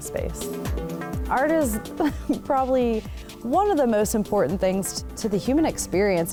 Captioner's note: laughs